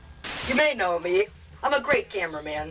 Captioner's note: static hissing